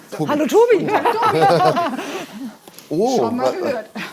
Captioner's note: laugh